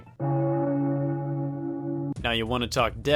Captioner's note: bell toll